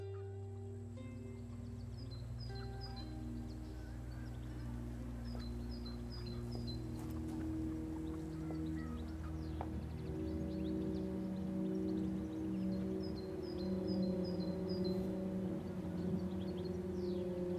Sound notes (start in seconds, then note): 2.2 birds chirping; 2.2 gentle melodic music; 12.3 birds chirping; 12.3 gentle melodic music